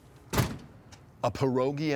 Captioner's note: door shutting